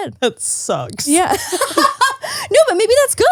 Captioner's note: laughs